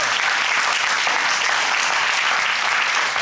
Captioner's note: audience applauding